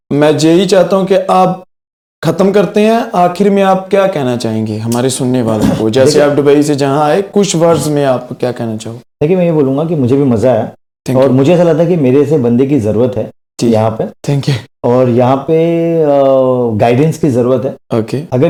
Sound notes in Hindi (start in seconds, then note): 5.5 गला साफ़ करने की आवाज़